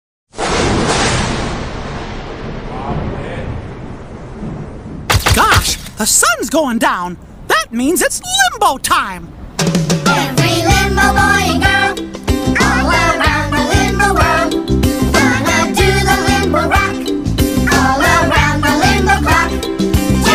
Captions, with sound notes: [Thunder claps] [Camera flashing] Mickey Mouse - Gosh, the sun's going down. That means it's Limbo time!